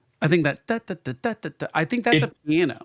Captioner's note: humming